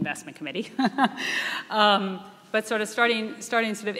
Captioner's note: laughing